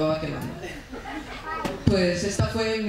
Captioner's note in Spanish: Risas